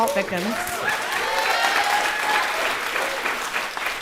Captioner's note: applause